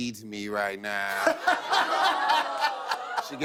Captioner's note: laughs